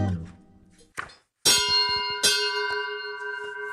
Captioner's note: ding-dong